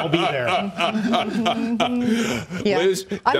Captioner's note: laughter